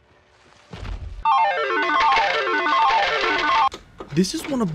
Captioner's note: video game beeps